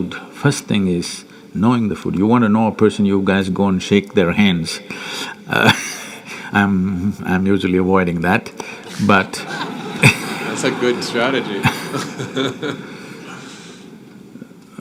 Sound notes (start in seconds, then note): 4.7 laughs; 9.2 laughter; 13.6 laughs